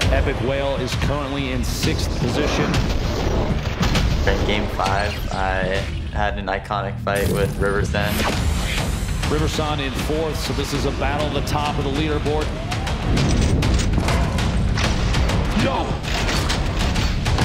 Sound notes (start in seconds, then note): 8.1 shimmering noise